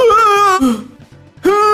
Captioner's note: sigh